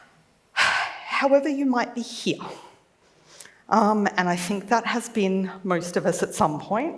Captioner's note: sighs